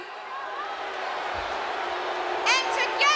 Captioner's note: audience booing